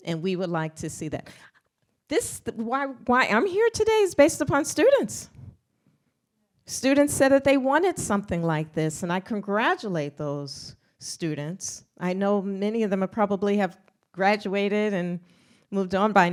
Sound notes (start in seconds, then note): none